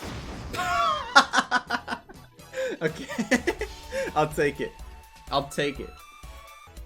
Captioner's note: laughing